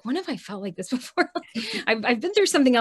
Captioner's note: chuckles